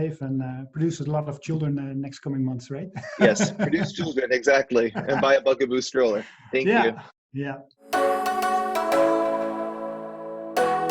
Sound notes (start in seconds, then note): 3.2 laughing; 7.9 upbeat music